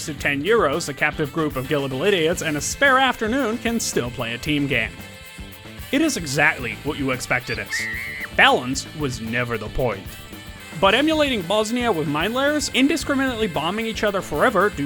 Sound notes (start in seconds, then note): 7.5 screams of the Damned